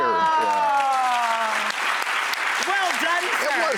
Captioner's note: audience cheers